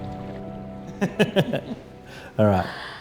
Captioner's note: laughs